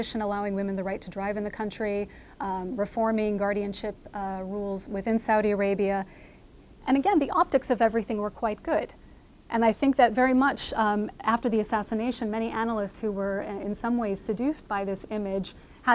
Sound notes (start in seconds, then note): none